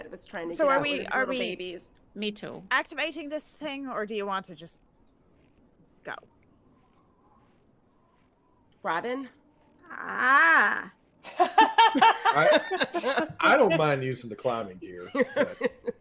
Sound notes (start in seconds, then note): 6.7 wind whistling; 11.3 everyone laughing